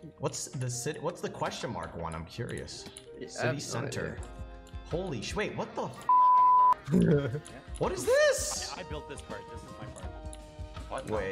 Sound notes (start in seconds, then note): 6.8 laughing